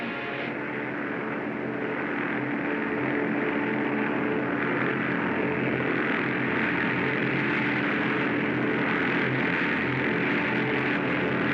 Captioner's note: aircraft squadron rumbling